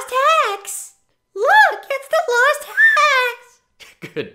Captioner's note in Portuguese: Raqueta de voz super-aguda; Risos